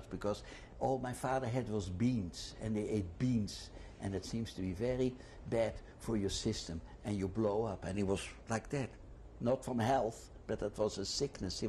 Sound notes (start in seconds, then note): none